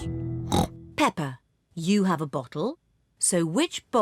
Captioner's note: snorts